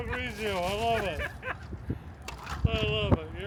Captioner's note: laughs; laughing